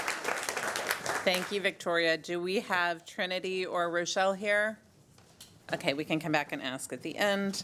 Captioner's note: applause